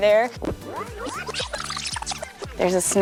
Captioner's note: tape whirl fast-forward